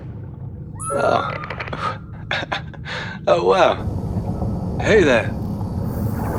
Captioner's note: laugh